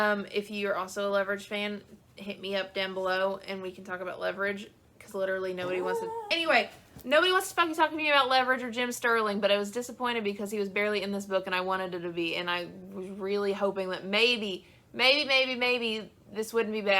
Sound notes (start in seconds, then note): 5.6 dog whine interruption